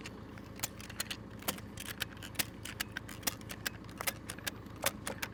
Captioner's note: tie-down ratchet clacking